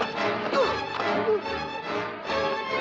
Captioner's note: grunting